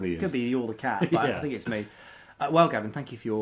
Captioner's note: laughs